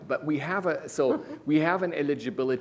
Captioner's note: laughs